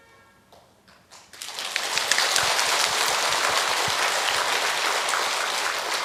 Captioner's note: applause